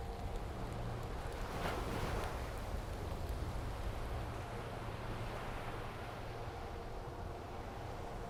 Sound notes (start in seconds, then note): 0.6 waves lapping